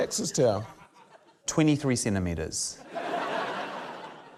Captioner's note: laughter